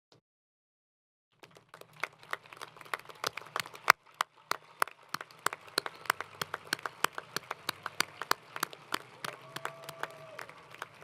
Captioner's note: applause